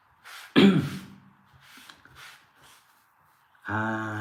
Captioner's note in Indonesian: berdehem